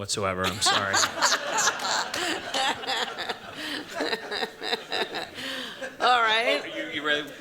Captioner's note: laughter